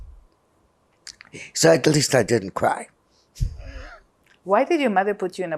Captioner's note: laughing